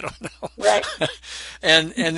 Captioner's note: laughs